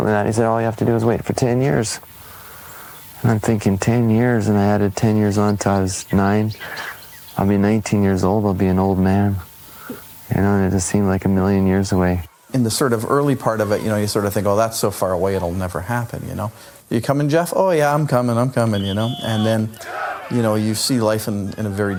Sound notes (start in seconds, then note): 12.7 playground sounds; 18.7 team practice sounds